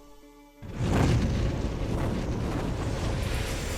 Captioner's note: air whooshing